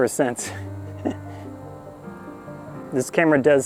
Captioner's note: laugh